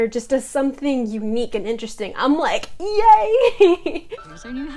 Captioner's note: laughs